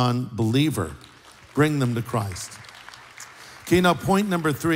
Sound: applause

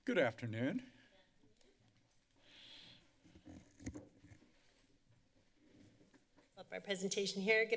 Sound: silence

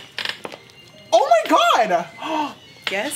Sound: gasps

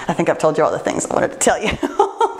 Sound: laughs

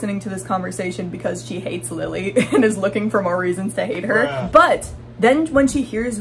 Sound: laughing

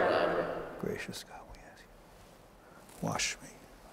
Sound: whispering

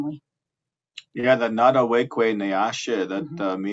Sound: speaking Indigenous language

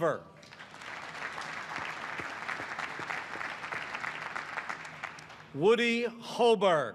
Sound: applause

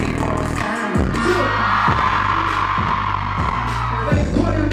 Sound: the loud cheers

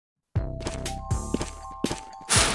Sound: footsteps

